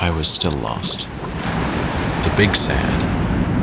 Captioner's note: waves sound